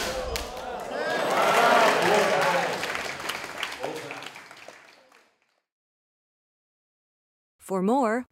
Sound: applause

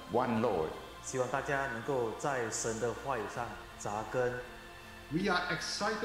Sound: Mandarin

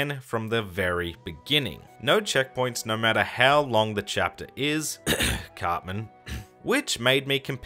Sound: cough

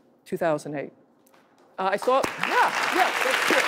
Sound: audience applauding

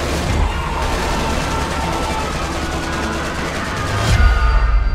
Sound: multiple screams

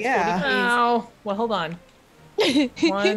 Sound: laugh

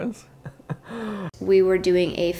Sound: laughter

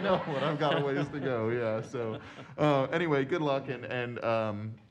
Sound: laughter

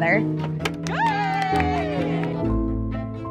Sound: crowd

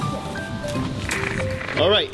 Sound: static crackles; happy music continues

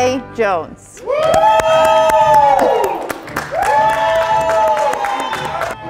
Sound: audience applauding

